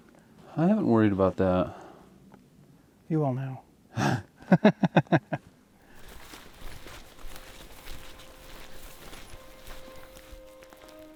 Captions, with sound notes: I haven't worried about that. You will now. (laughing) (Melancholic music)